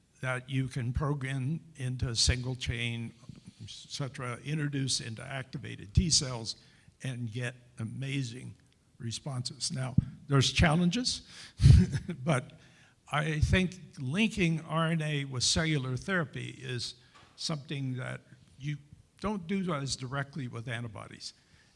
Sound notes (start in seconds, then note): 11.6 chuckles